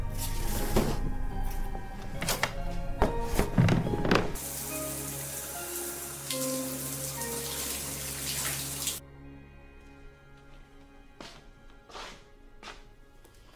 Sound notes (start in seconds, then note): 3.4 water splashing